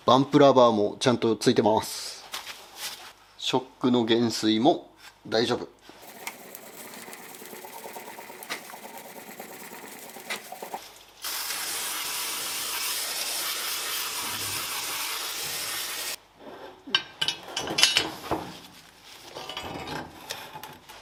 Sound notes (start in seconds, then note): 6.0 working sound